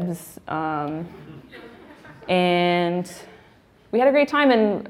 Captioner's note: laughing